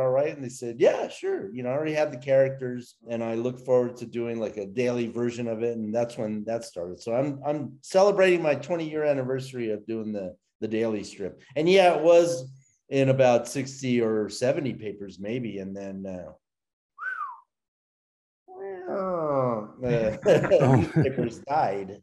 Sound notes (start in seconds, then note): 16.9 whistles; 18.6 makes descending noise